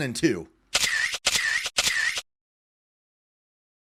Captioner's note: camera flashes